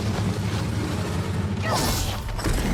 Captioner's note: dramatic music; growling